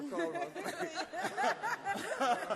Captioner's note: all laugh